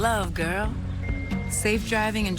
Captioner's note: phone chimemes